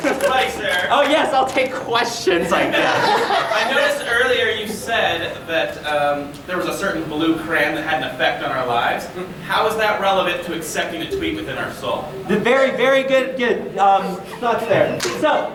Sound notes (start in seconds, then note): 2.3 audience laughing